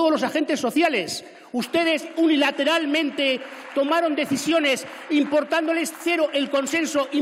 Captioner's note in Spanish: Aplausos